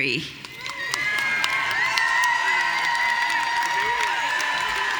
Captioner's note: audience cheering